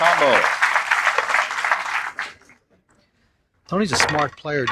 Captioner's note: applause